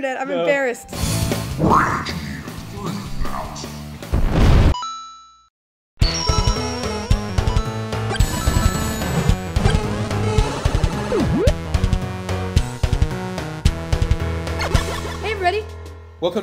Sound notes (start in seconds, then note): 4.7 computer sound effects